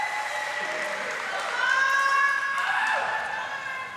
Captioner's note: audience applauding; audience cheering; participant cheering